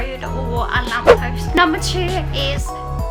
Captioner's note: smack